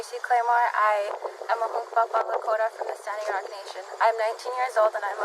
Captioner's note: speaks in Sioux